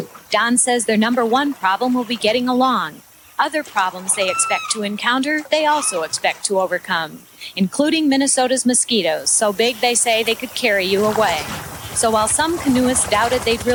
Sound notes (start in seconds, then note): 3.8 bird calls